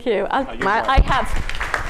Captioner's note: applause